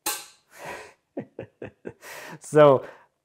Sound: chuckles

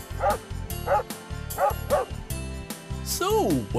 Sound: sound of a barking dog

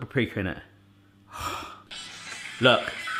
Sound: sighing

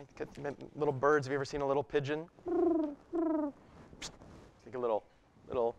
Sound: coo coo, whish

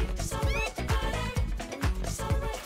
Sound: critter squeaking

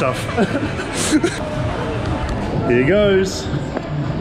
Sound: happy laughter

